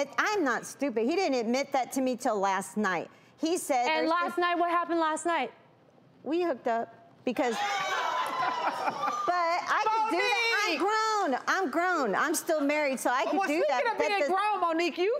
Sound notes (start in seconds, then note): 7.6 audience groaning